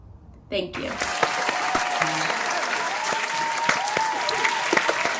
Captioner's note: applause